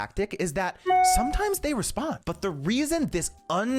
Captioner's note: email beeps